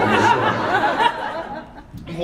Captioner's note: laughs